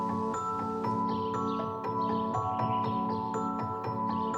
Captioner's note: birds chirping